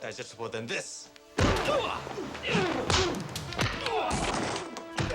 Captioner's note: body thudding; men groaning; dramatic music